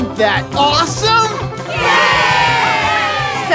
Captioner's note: cheering